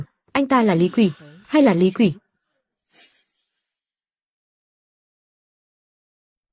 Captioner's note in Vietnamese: khịt mũi